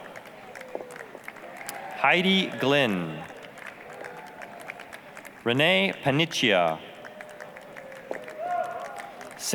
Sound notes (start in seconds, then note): 0.2 applause; 3.8 applause; 7.3 applause, cheering